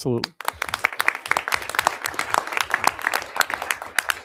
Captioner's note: crowd applauding